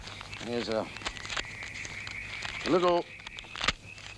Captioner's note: paper money snapping